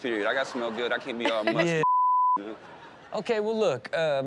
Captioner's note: beep